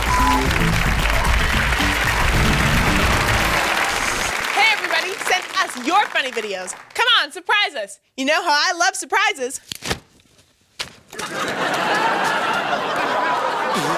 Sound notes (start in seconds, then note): 0.0 upbeat jazz music; 9.6 umbrella snaps as it opens; 11.1 audience laughing